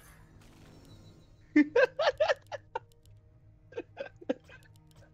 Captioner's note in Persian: خنده